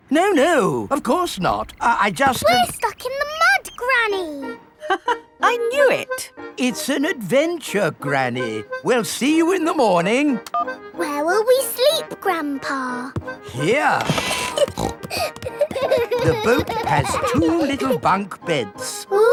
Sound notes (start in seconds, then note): 0.0 laughs; 5.1 laughs; 14.0 snorting; 14.3 kids giggling